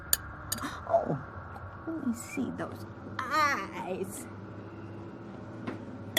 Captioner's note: laughs